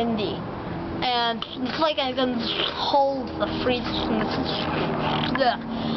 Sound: uhh

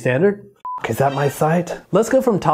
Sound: beep

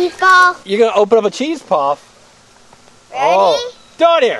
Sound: voiceover

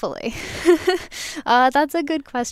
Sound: laughing

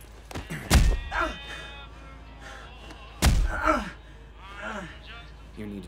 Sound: grunting; thudding

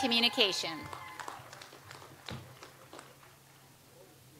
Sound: audience applauds

